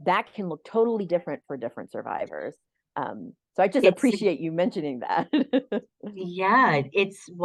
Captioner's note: laughter